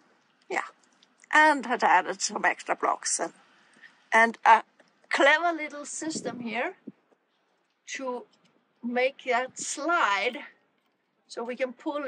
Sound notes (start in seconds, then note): none